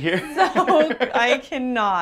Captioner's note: both laugh